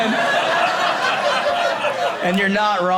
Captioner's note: audience laughing